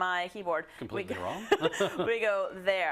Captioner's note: laugh